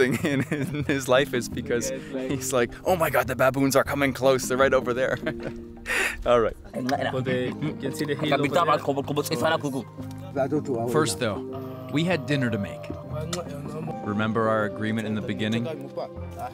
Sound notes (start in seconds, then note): 7.6 speaking foreign language